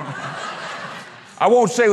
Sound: audience laughter

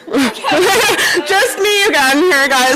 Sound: laughing

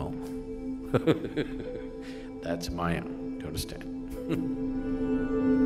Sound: laughs; laughs

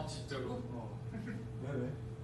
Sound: laughs

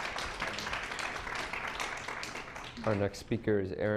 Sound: clapping

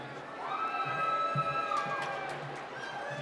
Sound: cheering

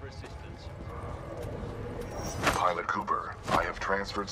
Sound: none

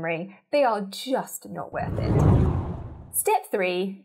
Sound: scene whooshes

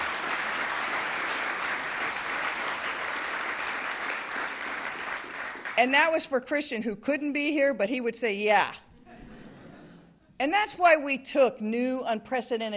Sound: applause

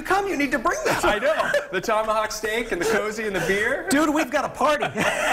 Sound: laughter

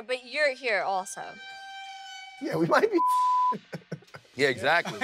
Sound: beep

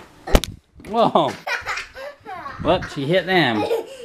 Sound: laughs

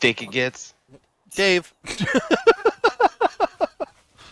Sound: laughter

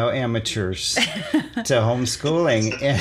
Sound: laughs

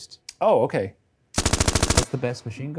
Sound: machine gun firing

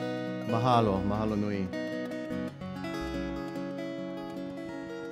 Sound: speaking in Hawaiian

